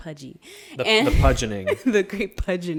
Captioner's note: laughs